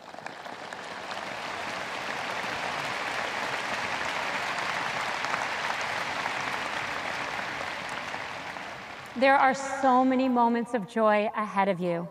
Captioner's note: audience applause